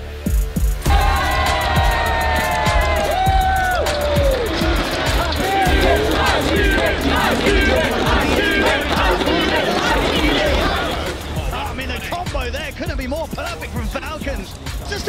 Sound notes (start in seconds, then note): 0.2 people cheering; 0.2 upbeat music; 6.0 people cheering